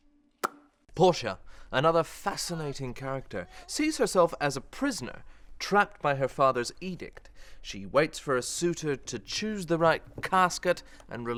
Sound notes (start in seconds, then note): 0.5 lips popping